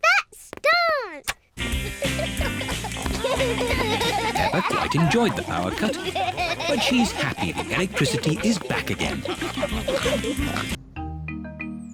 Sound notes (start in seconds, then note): 9.6 all giggling and snorting